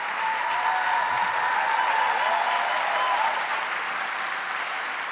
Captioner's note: audience cheering